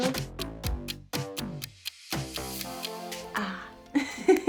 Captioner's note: clock ticks; sighs and laughs